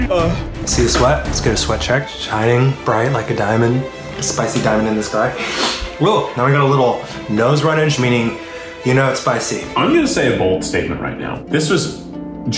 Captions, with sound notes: - Ugh. - See the sweat? Let's get a sweat check. Shining bright like a diamond. A spicy diamond in the sky (sniffles) Whew, now we've got a little nose runnage, meaning, you know it's spicy. - I'm gonna stay a bold statement right now. This was